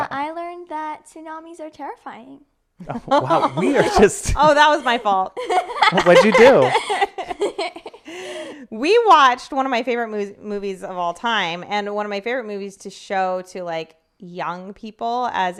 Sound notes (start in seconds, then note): 2.8 laughing; 5.4 chortling